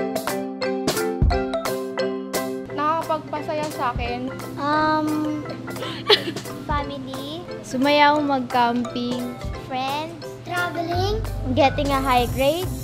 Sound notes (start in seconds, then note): 5.7 giggles